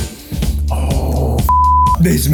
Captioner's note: upbeat music; beep